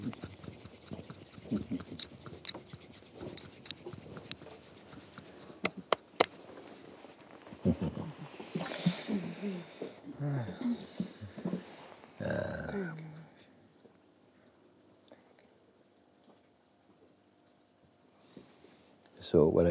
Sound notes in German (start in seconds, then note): 0.5 Stille